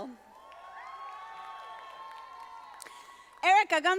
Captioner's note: audience applauding